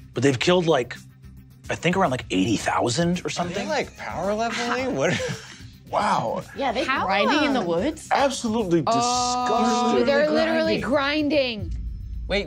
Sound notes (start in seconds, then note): 3.4 laughs